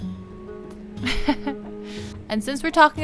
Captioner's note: chuckles